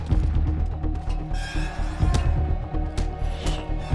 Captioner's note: metal creaks